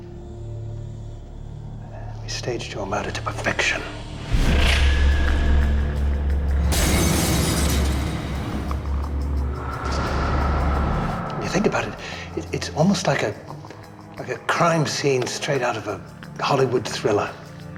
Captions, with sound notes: We staged your murder to perfection. (dramatic music) (glass shatters) when you think about it, it's almost like a crime scene straight out of a Hollywood thriller.